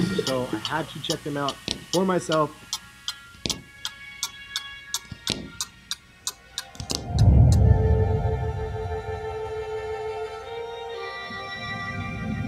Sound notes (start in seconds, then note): 3.0 clock ticking; 7.2 instrumental music